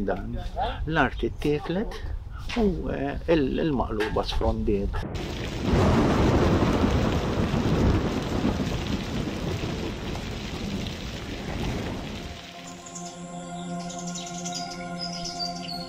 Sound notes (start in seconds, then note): 4.4 thunder and rain; 12.5 birds chirping